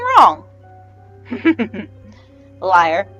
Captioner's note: chuckle